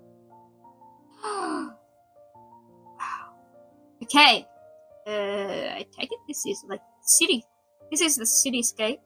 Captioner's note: gasps